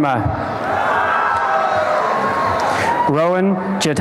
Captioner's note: applause and cheering